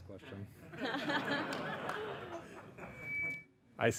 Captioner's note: laughing